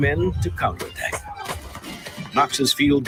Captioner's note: gunshots booming